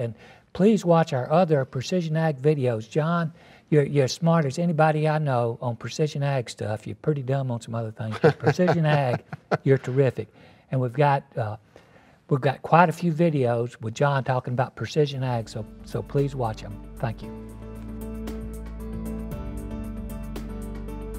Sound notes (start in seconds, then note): 8.0 laughing; 18.0 light upbeat music